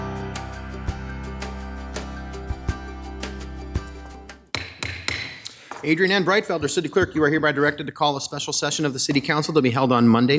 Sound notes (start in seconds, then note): 0.0 upbeat music; 4.5 hammer banging